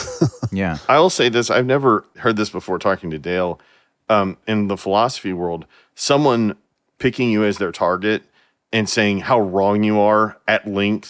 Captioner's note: laughing